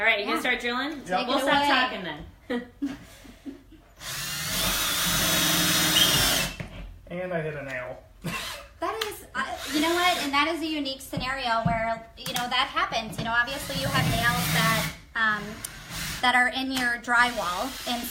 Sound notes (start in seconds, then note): 4.0 drill whirring; 8.3 laughs